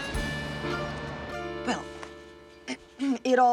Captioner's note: clears throat